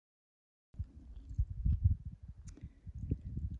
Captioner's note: wind blows